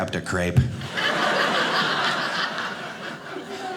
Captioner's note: audience laughing